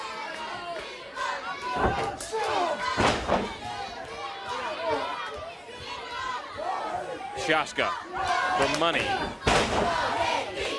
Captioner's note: crowd cheering